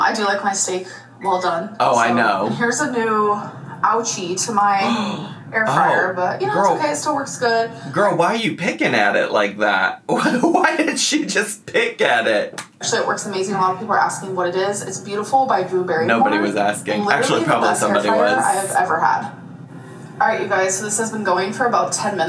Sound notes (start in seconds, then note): 4.8 gasps; 10.1 laughs